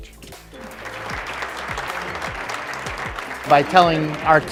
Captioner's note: crowd applauds